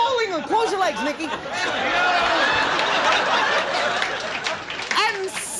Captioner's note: audience laughing